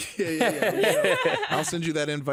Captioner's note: all laughing